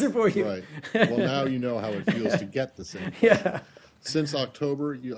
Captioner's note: laughter